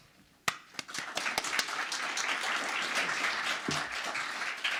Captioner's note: audience applauds